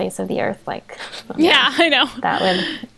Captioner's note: they laugh